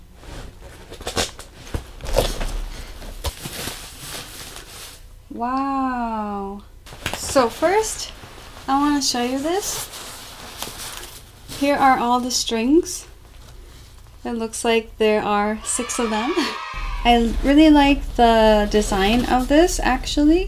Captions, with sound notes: Wowwwwww! So first I want to show you this Here are all the strings That looks like there are six of them. *Cheering* and I really like the design of this actually.